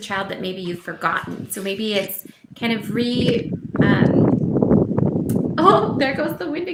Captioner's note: strong wind blows